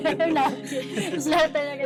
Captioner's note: laughs